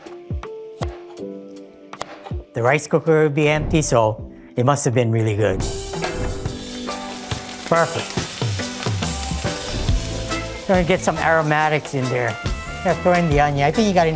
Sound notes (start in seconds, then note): 0.1 soft casual music; 8.8 light music; 8.8 oil sizzling